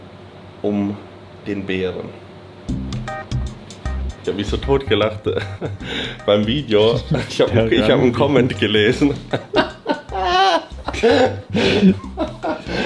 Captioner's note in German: gelächter